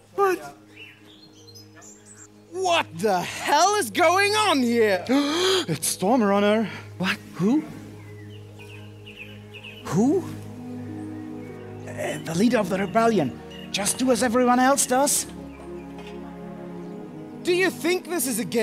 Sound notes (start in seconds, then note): 5.1 gasp